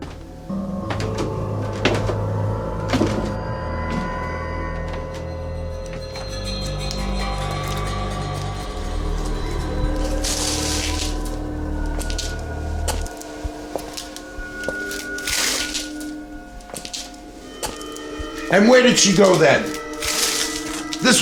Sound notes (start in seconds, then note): 0.0 footsteps thudding; 6.3 suspenseful music; 10.3 objects rustling